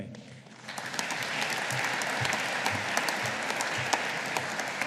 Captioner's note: audience applauding